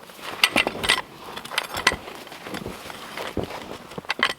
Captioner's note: log hook clanking